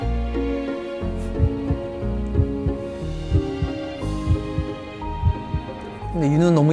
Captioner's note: heart pounding